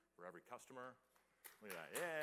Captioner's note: applause